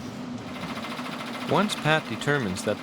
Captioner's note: motor whirring